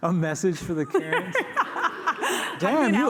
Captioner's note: laughter